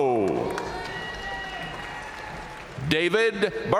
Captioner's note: audience cheering and applauding